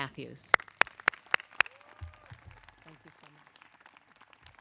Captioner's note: audience clapping